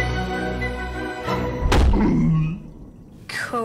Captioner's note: grunts